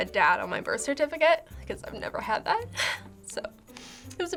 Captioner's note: choked up